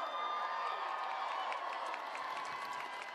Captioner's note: cheers and applause